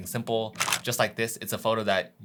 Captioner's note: camera shuttering